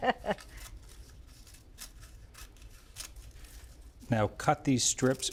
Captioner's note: laughs; gim rustling